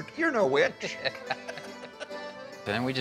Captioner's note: laughs